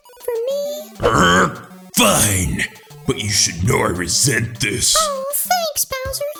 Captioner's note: growls